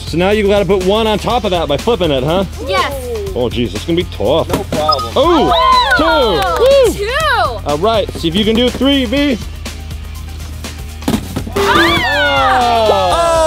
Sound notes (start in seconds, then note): 5.3 cheers; 11.4 hollow thud